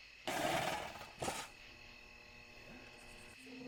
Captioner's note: object rattles